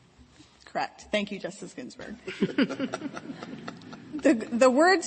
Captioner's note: laughter